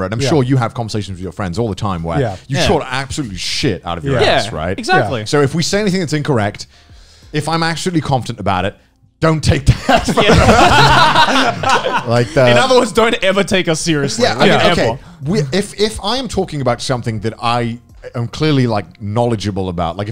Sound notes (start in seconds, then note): 9.7 laughing; 9.9 laughs